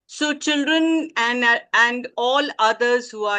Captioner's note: Hindi